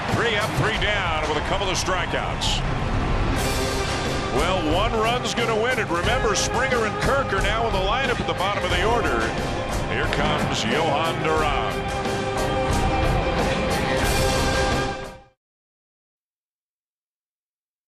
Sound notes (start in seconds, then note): 9.9 cheering and Applause